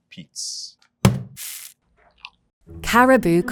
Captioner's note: bag thudding and coffee pouring